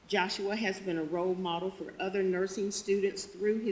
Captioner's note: none